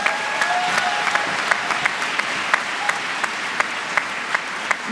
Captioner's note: applause